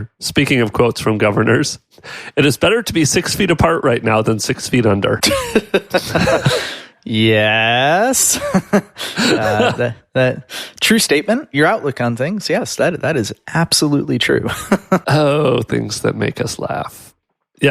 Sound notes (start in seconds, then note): 5.2 both laugh; 8.2 chuckles; 14.4 laughs